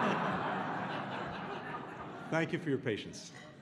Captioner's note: laughter